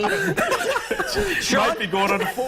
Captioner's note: laughter